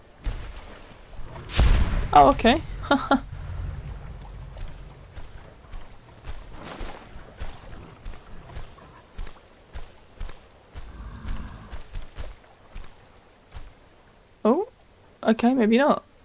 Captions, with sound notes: Oh ok *laugh* Ooh, ok, maybe not